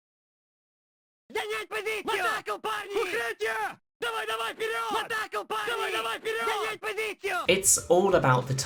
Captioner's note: silence; enemy yelling the same repeated voice lines on loop